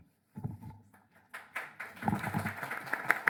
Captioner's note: applause